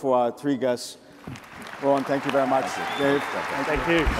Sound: audience applauds

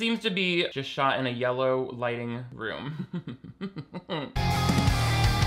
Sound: chuckles; rock music

